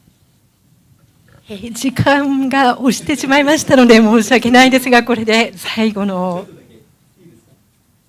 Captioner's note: speaking japanese